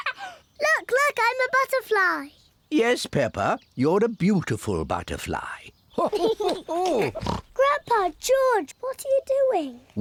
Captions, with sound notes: Look! Look! I'm a butterfly! Yes, Peppa, you're a beautiful butterfly. (BOTH LAUGH) Grandpa, George, what are you doing?